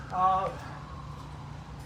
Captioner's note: none